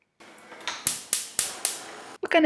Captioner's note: clicking as gas stove lights